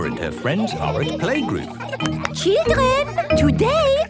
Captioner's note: clapping